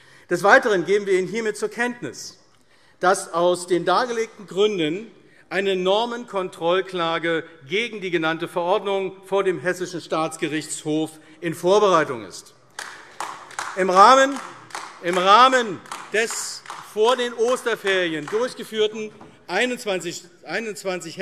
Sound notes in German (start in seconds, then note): 12.7 Beifall AfD